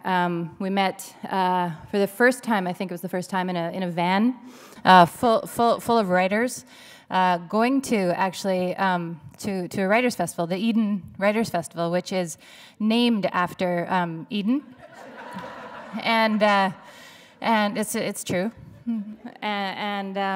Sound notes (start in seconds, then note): 14.7 laughter